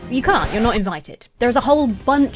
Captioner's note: record skipping; intense music